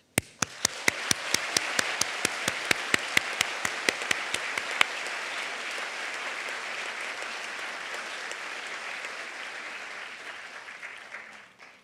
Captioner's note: applause